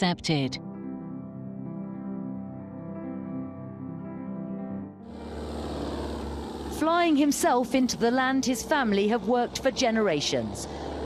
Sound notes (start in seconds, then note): 0.2 romantic music; 4.7 plane flying